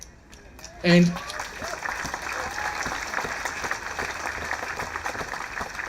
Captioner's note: applauding